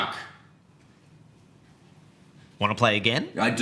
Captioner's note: silence